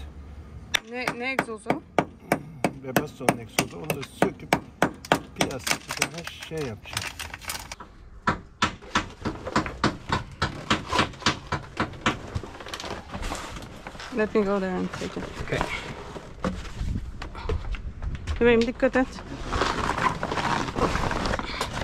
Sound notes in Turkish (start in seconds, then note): 8.2 Çekiç sesi